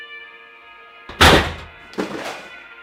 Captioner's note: knock